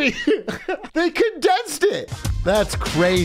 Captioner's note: laughs